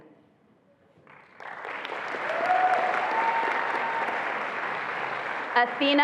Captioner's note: attendees applauding and cheering